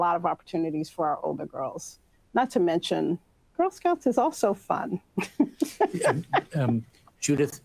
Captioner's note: both laugh